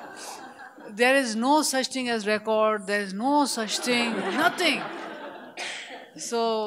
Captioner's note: laughter